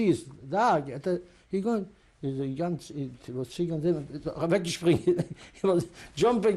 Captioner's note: yiddish speech